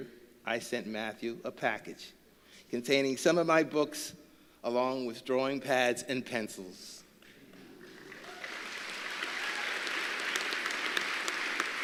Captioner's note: applause